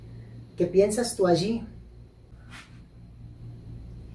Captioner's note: Spanish